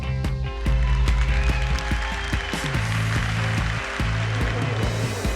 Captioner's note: applause